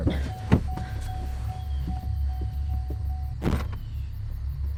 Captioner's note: door alert beeping